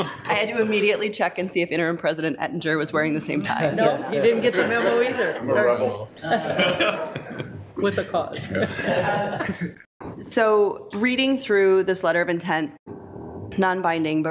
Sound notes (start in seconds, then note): 6.2 audience laughing; 8.8 attendees laughing